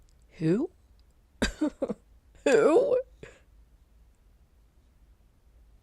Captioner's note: laughs